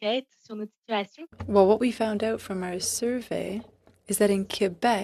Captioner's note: speaking FRENCH